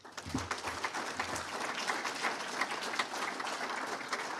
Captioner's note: audience applauding